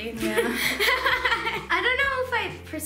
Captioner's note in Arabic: يضحك